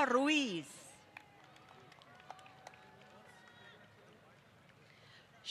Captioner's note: applause